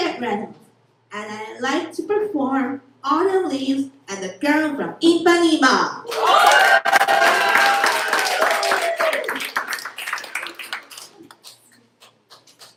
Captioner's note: applause